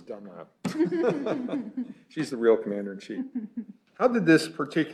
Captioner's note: laughing